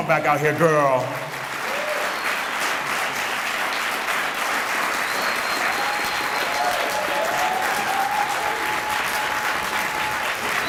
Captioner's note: applause